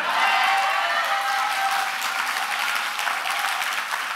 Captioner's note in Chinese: 掌聲